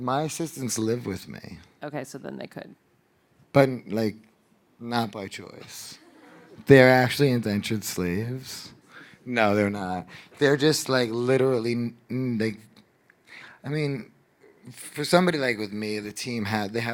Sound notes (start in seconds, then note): 6.0 audience laughing